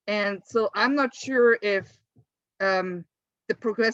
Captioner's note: none